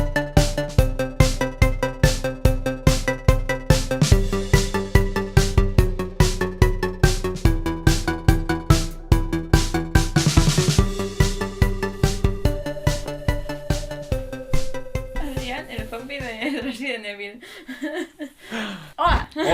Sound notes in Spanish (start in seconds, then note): 17.5 Risas